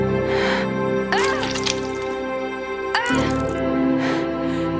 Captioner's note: blood splatters; Heather pained grunting